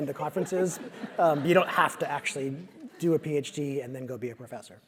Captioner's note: laugh